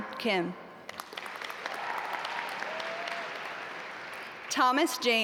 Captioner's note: audience applaud